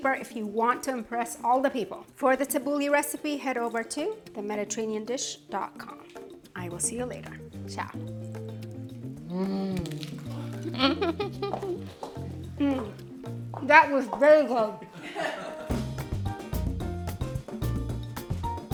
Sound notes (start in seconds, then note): 9.8 giggling; 12.5 speaking through full mouth; 15.7 cheerful music